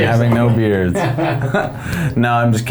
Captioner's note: laughs